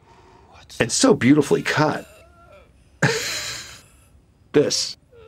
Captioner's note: laughs